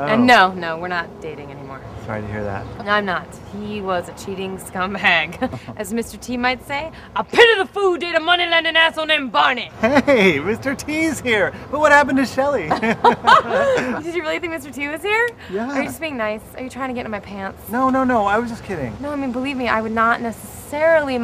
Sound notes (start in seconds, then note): 9.8 laughing; 12.6 laughter